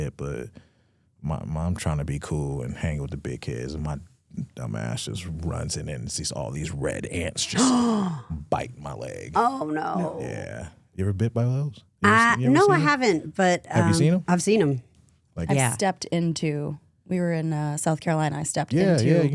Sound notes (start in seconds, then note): 7.4 gasps